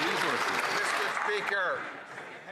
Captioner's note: some Applause